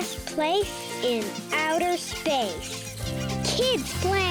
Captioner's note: animals squeaking